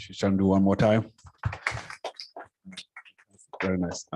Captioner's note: applause